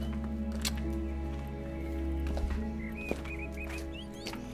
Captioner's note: dramatic music; birds chirping; dramatic music